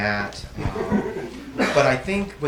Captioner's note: audience laughs